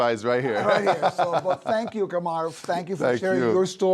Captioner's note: laughs